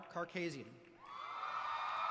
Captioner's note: applause